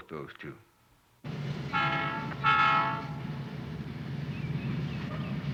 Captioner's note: train whistle